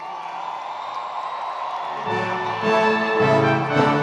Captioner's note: attendees cheering; recessional music